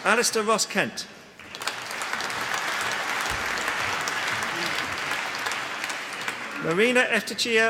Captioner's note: applause; applause